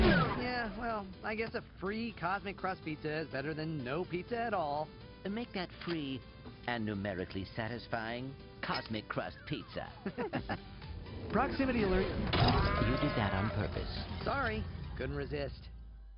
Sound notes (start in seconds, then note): 9.2 laughs; 11.9 crashing